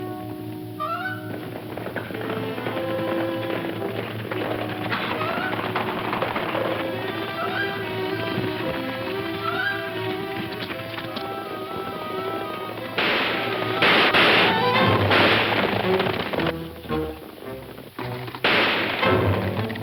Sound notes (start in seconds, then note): 0.7 horse hooves clomping; 12.0 guns firing; 16.2 soft suspenseful music; 18.4 gun fires